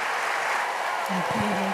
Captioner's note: applause